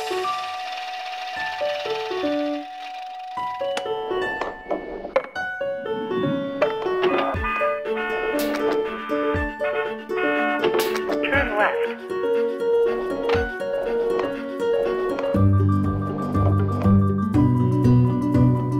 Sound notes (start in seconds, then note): 10.0 honk